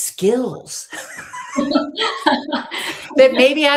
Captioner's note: laughter